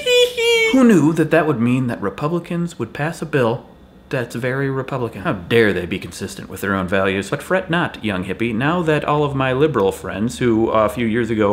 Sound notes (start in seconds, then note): none